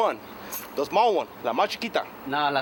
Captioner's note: speaking spanish